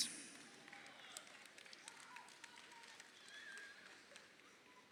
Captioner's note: crowd applauding